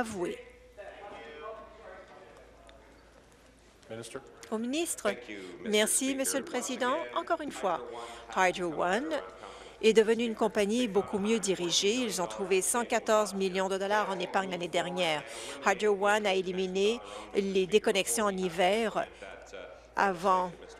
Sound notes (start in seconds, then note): 5.0 voice trailing